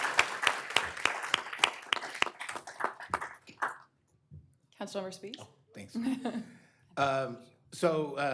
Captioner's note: applause